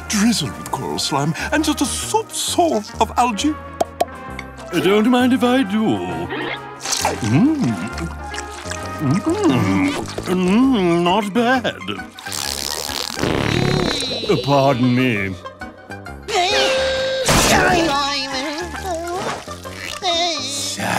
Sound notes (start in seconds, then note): 3.5 popping; 12.2 farting